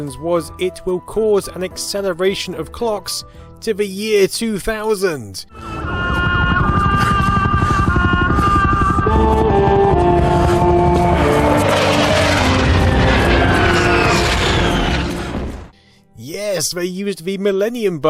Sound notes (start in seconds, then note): 5.4 sad, music; 11.6 rocket blast